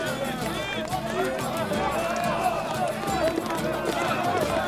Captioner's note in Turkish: Tezahürat sesleri